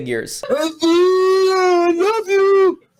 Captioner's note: shouting